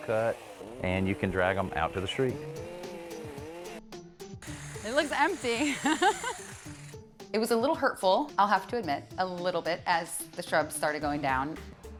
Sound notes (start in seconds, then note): 5.4 laughs